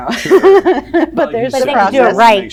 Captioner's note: laughs